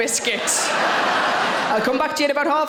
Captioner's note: audience laughing